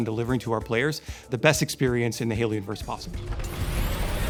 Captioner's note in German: knisternde energie